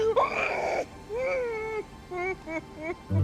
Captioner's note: wails